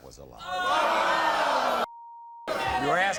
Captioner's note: audience groans